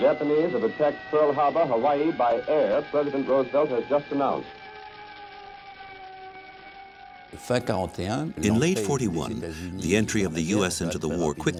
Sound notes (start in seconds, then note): 4.8 fire crackling; 5.8 alarm blaring